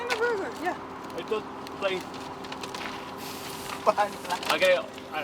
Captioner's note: crew chattering